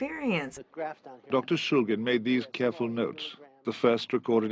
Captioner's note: voiceover